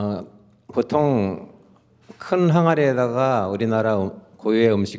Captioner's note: speaking in Korean